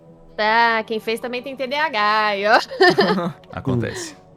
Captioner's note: laughter